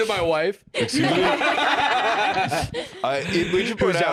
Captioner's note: all laughing